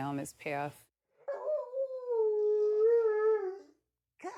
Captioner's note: dog howling